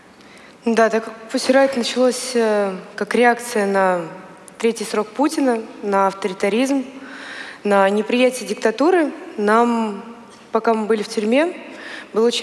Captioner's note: foreign Language